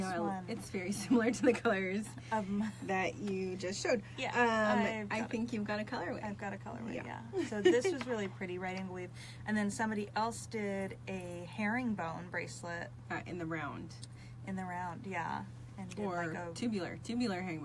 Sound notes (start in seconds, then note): 7.3 laughs